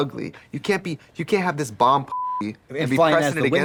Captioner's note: beep